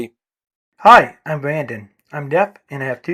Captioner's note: voiceover